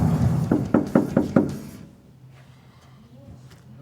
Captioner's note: knocking